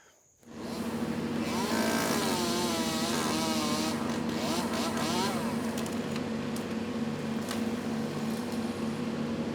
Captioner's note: chainsaw buzzing; truck humming